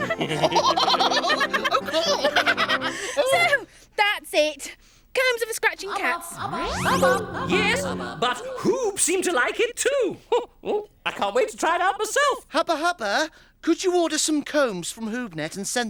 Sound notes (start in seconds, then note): 0.0 laughing; 7.6 outer space voice